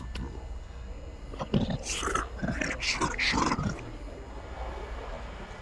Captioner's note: distorted voice speaks